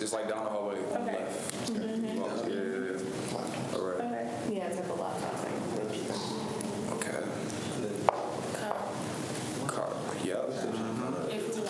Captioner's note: students chatter